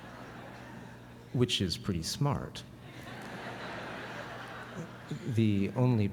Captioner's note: laughter; laughter